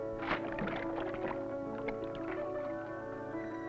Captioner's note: water splashing